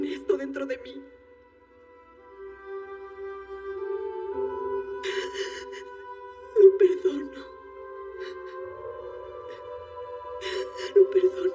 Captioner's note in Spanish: Solloza